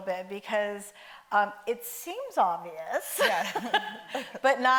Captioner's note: laughs